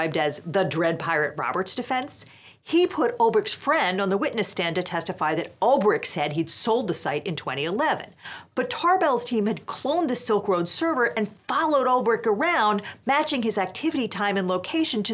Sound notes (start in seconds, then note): none